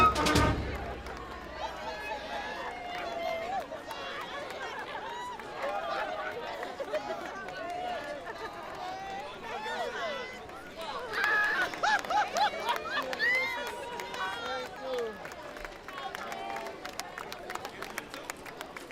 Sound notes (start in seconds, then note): 0.8 applause; 0.8 general chatter